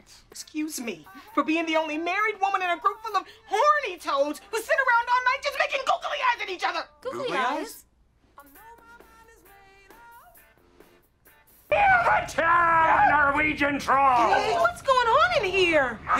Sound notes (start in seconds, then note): 11.7 TROY screaming